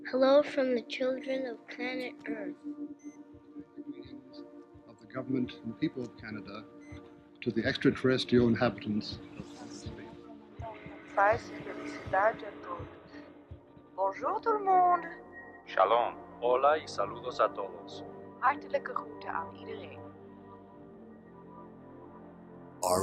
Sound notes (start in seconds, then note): 0.0 ethereal music; 9.5 non-english speech